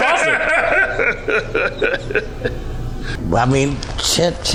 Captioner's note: laughing